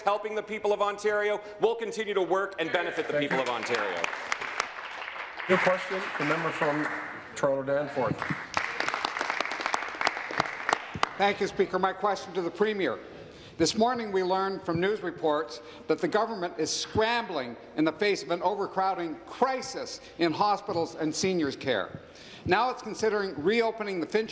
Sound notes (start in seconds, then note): 8.0 applause